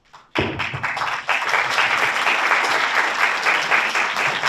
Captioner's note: audience applauds